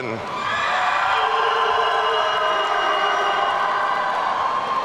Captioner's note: audience cheering